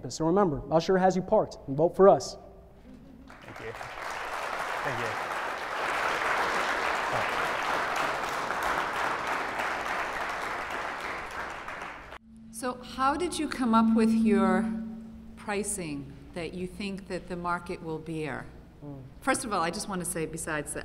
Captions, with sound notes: So remember, Usher has you parked, and vote for us. >> Thank you. [ Applause ] >> How did you come up with your pricing that you think that the market will bear? First of all I just want to say besides that,